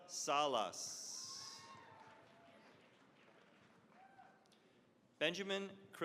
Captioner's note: cheering, applause